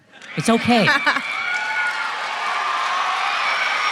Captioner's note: applause